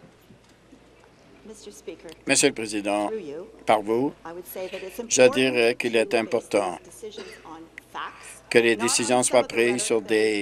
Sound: some Applause

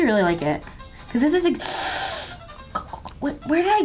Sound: gasps

